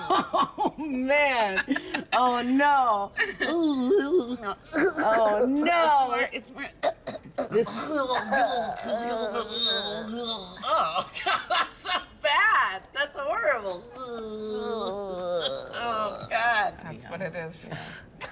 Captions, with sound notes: Oh, man! Oh, no! [DISGUSTED NOISE] No, [DISGUSTED NOISE]. Oh, no. It's more-- it's more, [CHOKING NOISE].. [CHOKING NOISE]. Oh, God, that's so bad. That's horrible. [DISGUSTED NOISE] Oh God, that's what it is. Yes.